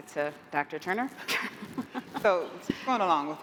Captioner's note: laughter